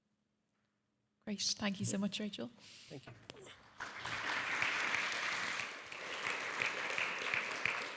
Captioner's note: audience clapping